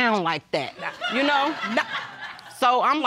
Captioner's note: laughter